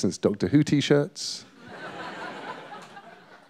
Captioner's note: laughter